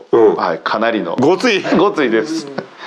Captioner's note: laughs